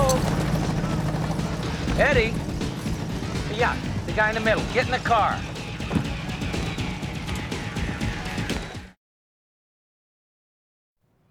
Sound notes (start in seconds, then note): none